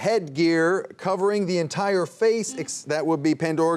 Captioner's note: buzzer buzzing